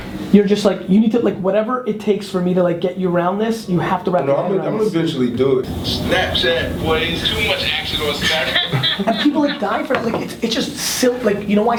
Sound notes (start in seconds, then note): 5.8 voiceover; 8.7 laughs